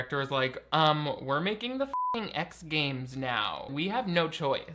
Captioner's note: beep